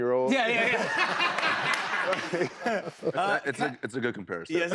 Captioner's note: laughter